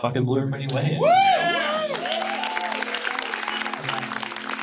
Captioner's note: audience applause